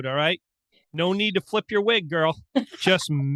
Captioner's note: laughing